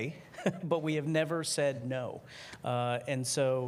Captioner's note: laughter